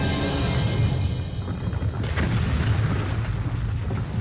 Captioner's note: crashing